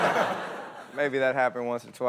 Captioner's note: audience laughs